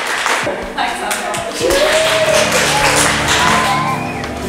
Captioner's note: claps